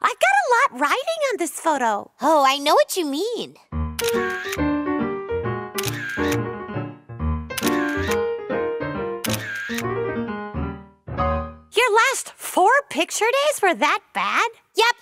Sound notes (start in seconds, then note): 3.9 clicking